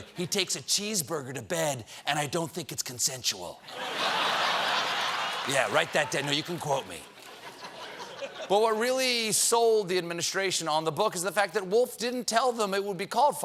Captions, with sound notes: HE TAKES A CHEESEBURGER TO BED, AND I DON'T THINK IT'S CONSENSUAL. ( LAUGHTER ) YEAH, WRITE THAT DOWN. YOU CAN QUOTE ME." BUT WHAT REALLY SOLD THE ADMINISTRATION ON THE BOOK IS THE FACT THAT WOLFF DIDN'T TELL THEM IT WOULD BE CALLED "FIRE